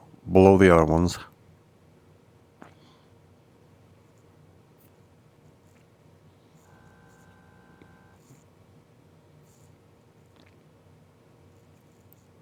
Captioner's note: silence